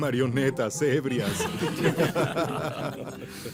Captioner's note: risas